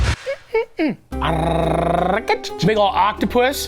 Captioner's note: Matty hums, trills